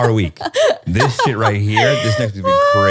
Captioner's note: laughing